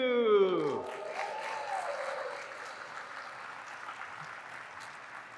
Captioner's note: audience applauding